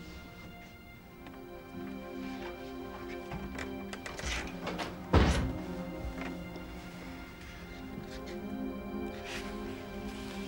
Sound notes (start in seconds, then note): 5.0 door thudding; 6.2 soft orchestral music